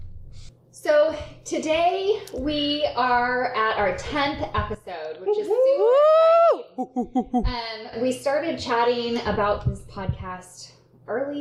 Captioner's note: cheering